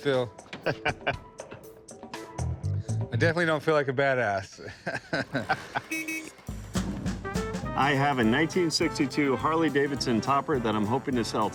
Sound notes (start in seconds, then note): 0.6 laughs; 4.6 laughs; 5.6 horn honks; 6.3 1960s music